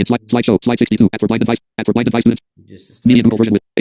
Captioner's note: screen reader narrating extremely rapidly